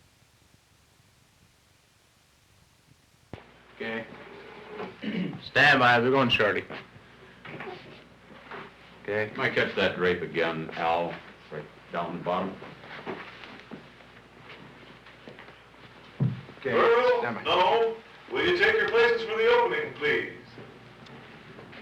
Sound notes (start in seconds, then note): 5.0 throat clearing; 12.4 footsteps, shuffling sounds; 20.4 footsteps, shuffling sounds